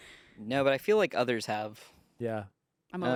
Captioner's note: none